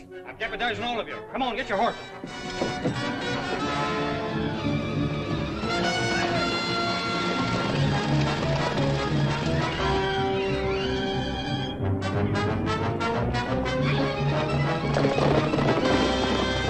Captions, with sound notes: Come with me, all of you. Get your horses! [ ACTION MUSIC ] [ HORSES GALLOPING ]